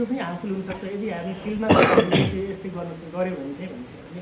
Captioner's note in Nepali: खोकेको आवाज; घाँटी सफा गरेको आवाज